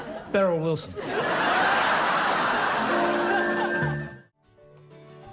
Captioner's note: audience laughs